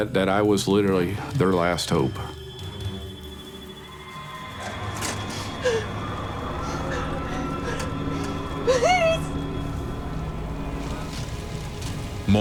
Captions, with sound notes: that I was literally their last hope. - (gasping) Please! (ominous music)